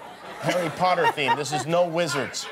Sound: laughter

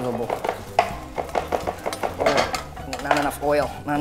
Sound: clanking

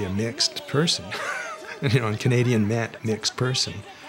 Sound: laughs

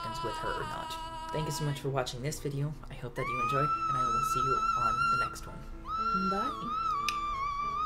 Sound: clicks tongue

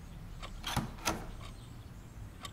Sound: door opening

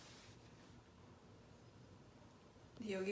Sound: peaceful scratches

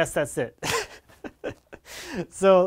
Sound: laughing

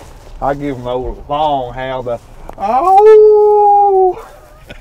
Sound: howls; chuckling

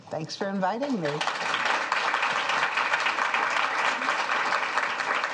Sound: audience applauding

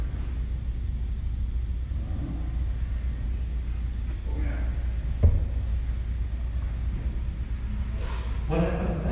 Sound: reliable sniffle

